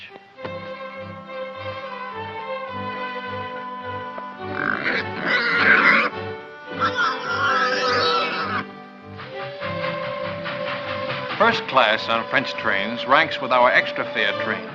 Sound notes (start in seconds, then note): 4.4 grunts, squeals; 8.8 whistle blows